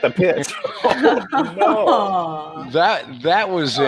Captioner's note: commentators laughing